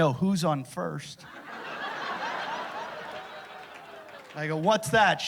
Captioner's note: laughter